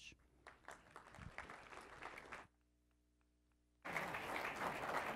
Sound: applause

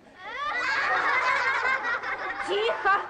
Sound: general laughter

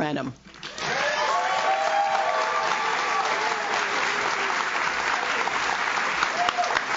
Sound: audience claps; audience cheers

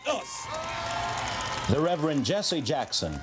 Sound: audience applauding

